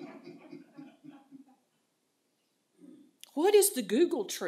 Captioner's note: laughter